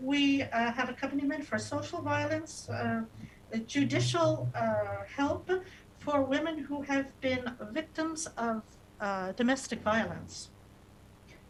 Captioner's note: speaking non-english